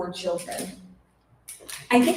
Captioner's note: rustling